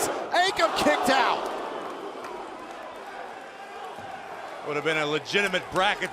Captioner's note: crowd cheering